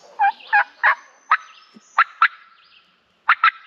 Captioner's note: imitates bird